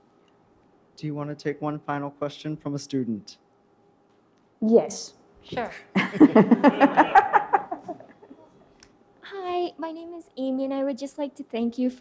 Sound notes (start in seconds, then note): 6.0 audience laughs